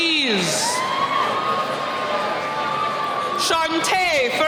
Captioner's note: cheering